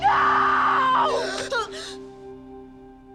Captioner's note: gasps